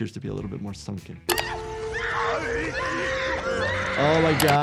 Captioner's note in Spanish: Elsa y Walter gritando